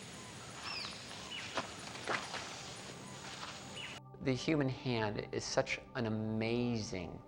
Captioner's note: jungle noise